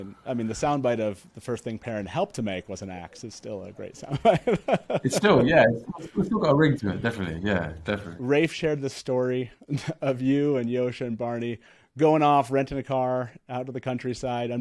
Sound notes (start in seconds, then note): 4.1 laughs